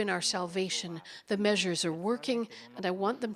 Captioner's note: speaking Foreign Language